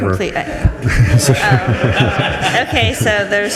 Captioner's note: group laughs